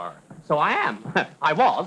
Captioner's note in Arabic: يضحك